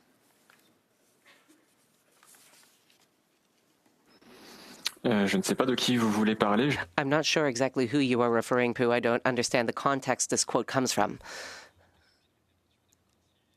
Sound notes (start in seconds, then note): 8.7 speaking French